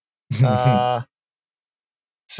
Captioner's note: chuckles; chuckling